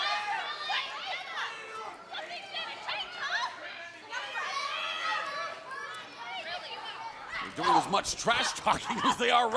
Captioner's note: crowd chatter